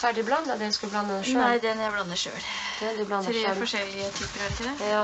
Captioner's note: small talk